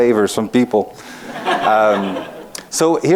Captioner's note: laughing